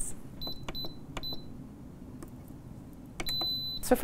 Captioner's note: beeping